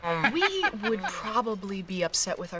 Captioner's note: laughing